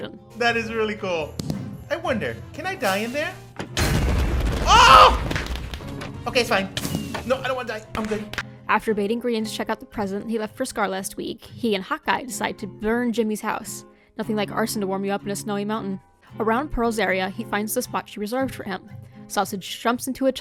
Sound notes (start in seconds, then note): 5.2 totem popping noise